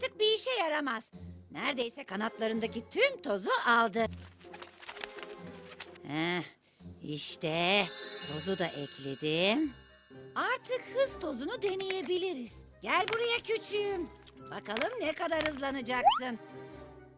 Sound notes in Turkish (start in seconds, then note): 4.2 Kanat sesleri